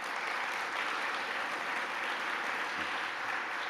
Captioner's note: applause